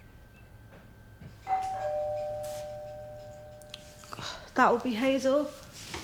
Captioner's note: doorbell ringing